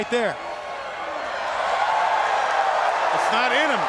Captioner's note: crowd cheering